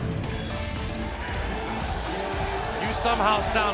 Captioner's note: crowd cheering